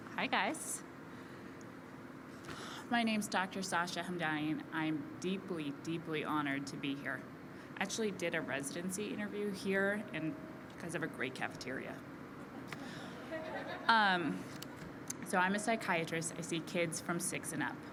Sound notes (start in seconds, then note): 13.1 laughter